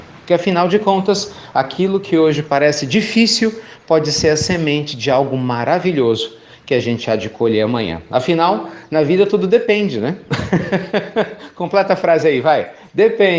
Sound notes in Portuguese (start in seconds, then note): 10.2 Risos